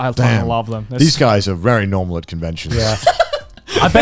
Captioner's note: laughing